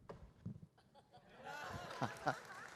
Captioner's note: laughter; applause